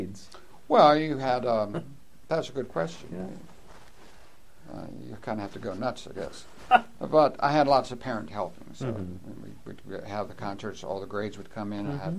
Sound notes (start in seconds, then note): 7.0 laughs